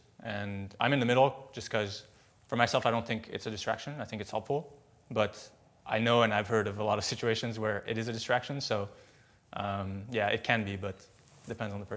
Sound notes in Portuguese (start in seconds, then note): none